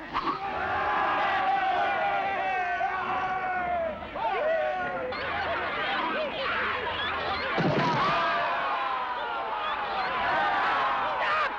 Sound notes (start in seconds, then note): 0.4 roaring and cheering; 7.5 roars and cheers